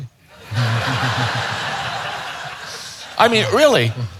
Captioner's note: audience laughing